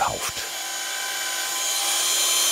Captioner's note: whirring